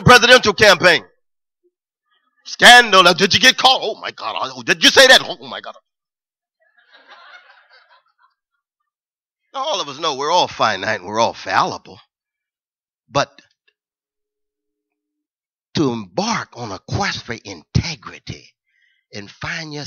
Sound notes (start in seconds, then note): 6.6 laughter